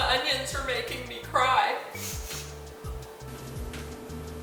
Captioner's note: sniff, sniff